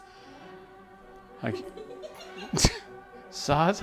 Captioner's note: laughing